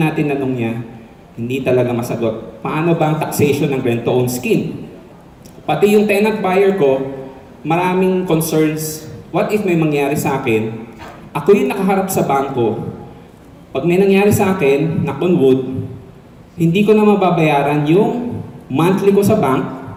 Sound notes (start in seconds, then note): 15.7 knock on wood